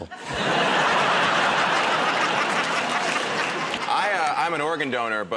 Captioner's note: laughter